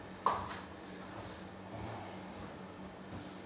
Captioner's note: none